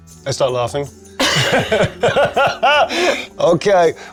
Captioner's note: both laughing